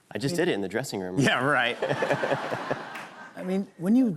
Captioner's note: laughter